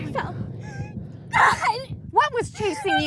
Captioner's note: whimpers